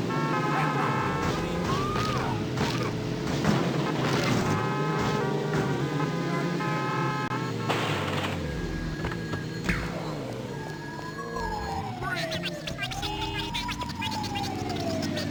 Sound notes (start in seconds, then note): 0.0 car horns blaring; 2.1 people yelling; 11.7 police sirens blaring